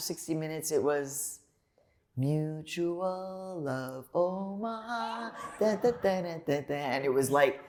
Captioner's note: laughter